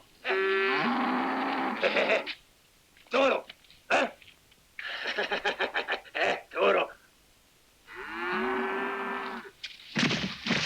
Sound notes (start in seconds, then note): 0.3 cows mooing; 3.1 matadors speaking in Spanish; 7.9 cows mooing